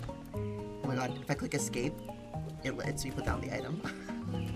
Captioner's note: gasps